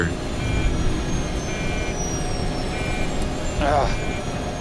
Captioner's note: alarm beeping